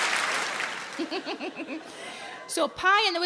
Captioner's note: Sarah laughs